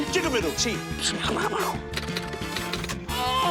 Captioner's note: imitates gunfire; keys clack